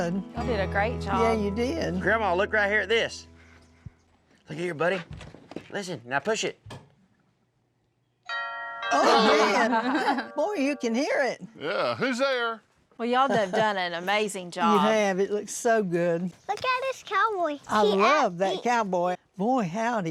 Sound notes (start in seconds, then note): 8.3 door bell rings; 8.9 laughter